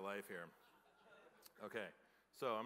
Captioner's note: laughter